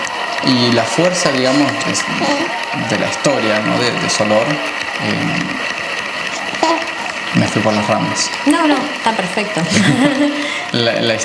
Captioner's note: laughs